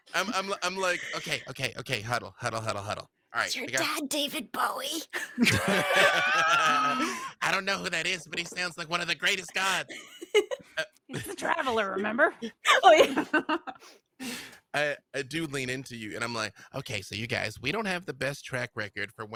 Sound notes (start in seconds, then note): 0.0 laughs; 5.1 laughs; 14.0 laughs